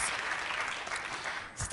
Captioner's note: applause